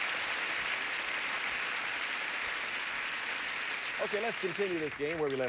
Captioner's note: audience applauding